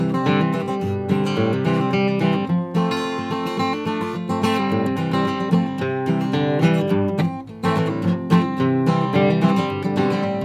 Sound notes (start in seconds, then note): none